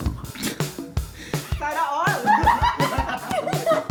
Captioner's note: laughing; laughs; giggling